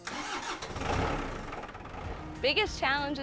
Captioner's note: tractor starting